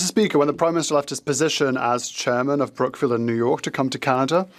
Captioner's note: speaking French